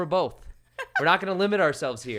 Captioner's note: laughs